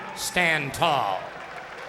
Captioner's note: applause